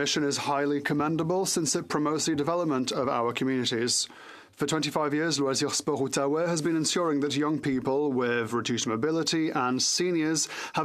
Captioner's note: french